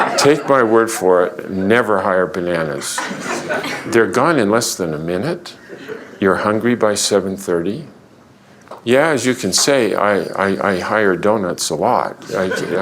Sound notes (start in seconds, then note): 2.8 laughter